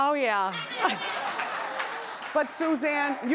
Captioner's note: laughing